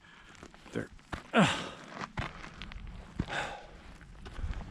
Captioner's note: groaning